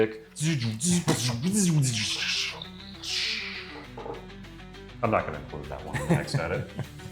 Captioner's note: sound effects